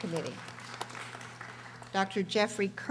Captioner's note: audience applauding